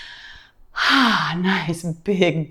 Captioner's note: exhales deeply